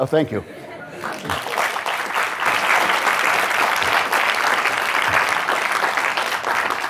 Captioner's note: audience applauding